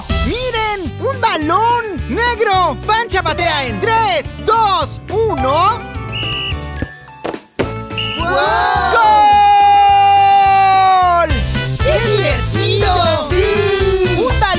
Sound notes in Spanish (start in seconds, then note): 5.9 Sonido de silbato; 9.1 Grito